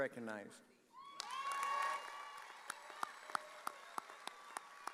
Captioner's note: audience cheering